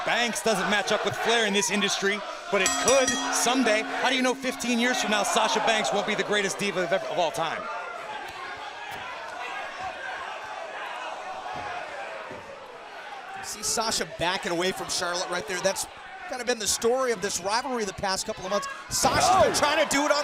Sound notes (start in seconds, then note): 2.6 bell ringing; 9.5 crowd chatter